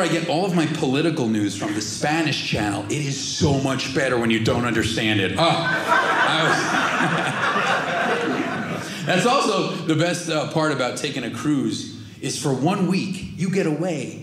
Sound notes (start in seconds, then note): 5.4 audience laughing